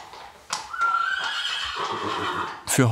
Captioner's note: neighing